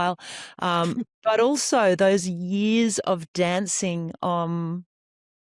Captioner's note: laughs